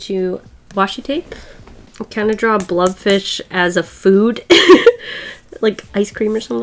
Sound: laughs

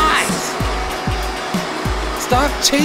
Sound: vacuum

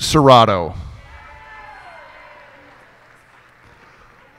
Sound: cheers and applause

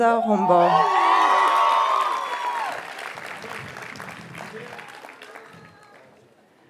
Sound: audience cheers and applauds

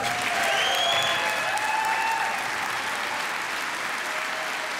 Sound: applause

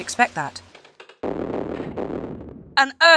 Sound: sound of stones

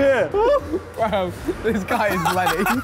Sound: all laughing

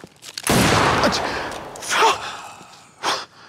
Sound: gun booming

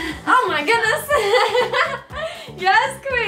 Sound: laughs

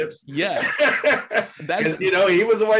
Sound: laughs

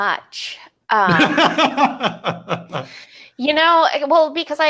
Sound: laughs

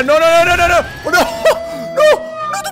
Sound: emotional Flute; nervous laughter

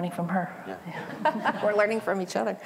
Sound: laughter

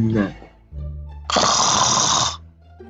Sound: snoring

